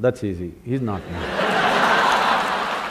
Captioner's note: laughter/Applause; 笑聲/掌聲